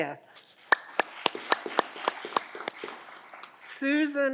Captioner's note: audience clapping